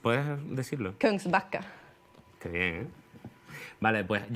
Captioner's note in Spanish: habla en sueco